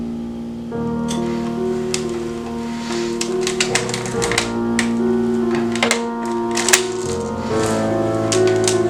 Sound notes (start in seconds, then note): 5.7 cocks Gun